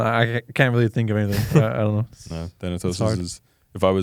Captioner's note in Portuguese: risos